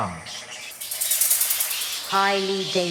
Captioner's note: birds chirping